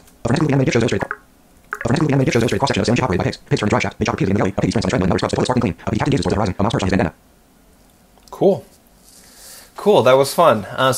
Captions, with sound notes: [extremely fast speaking] [extremely fast speaking] cool cool that was fun